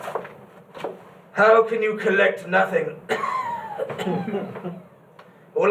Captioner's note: cough wheeze